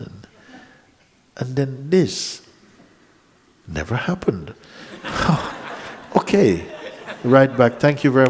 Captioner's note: laughter